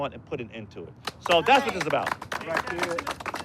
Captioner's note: crowd clapping